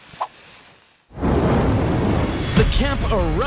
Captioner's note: fire whooshing